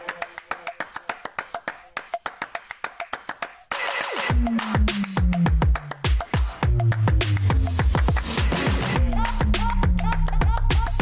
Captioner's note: 掌聲